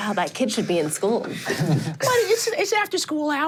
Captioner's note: chuckles